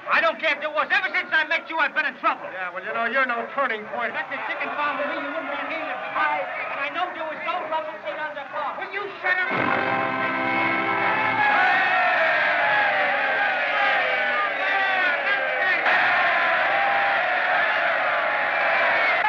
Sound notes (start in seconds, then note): 4.7 arguing Continues; 9.4 fanfare; 11.6 cheering; 15.7 cheering Continues